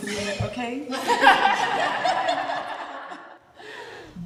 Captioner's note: laughter